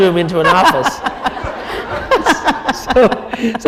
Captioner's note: laughter